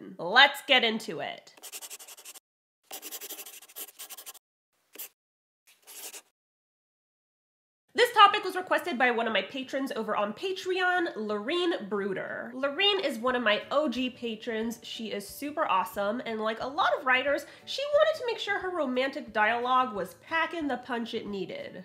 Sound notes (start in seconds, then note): 2.8 the sound of a pen scratching. LOGO